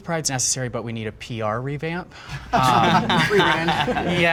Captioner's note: all laugh